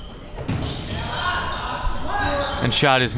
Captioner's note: coaches yelling